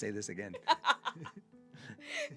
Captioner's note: laughs